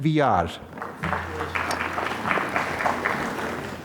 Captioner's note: applause